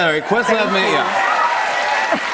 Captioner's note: cheers and applause